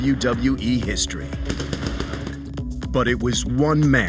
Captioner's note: fireworks explode